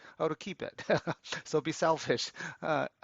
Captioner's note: laughs